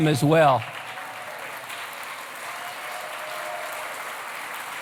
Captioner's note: applause